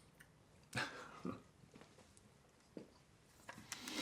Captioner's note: laughing